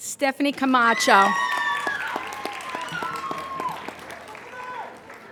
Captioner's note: applauding